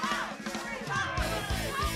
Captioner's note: crowd chatter; crowd cheering